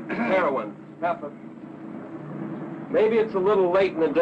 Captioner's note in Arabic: سعال